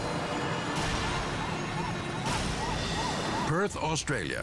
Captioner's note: dramatic music; sirens wailing